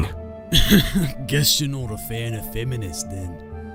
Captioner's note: chuckles